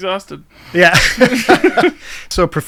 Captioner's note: both laughing